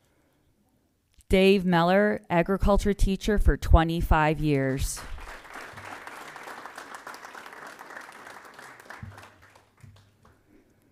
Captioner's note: applause